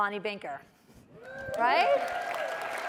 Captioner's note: applause and cheering